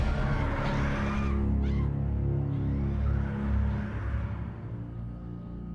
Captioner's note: distant screaming